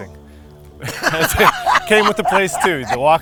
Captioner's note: laughter